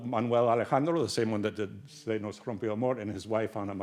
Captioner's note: speaks Spanish